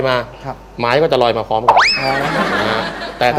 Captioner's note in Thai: เสียงหัวเราะ